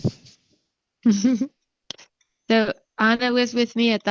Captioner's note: speaker chuckling